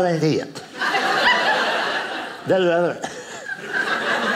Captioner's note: audience laughing